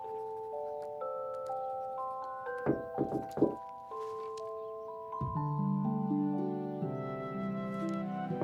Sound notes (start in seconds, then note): 2.6 knock on window